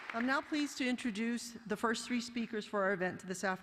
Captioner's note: applause